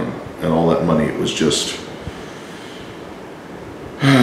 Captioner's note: sighs